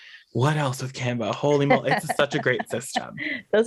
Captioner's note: laughs